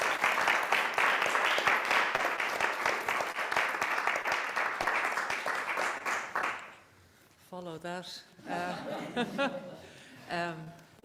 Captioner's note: applause